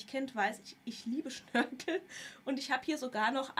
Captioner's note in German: gelächter